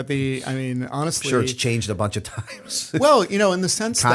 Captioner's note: chuckle